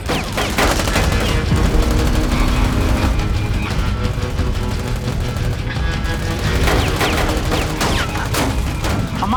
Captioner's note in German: Schüsse